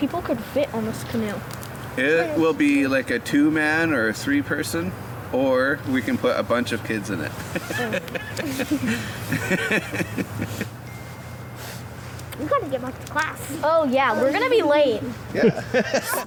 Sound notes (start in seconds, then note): 7.3 laughs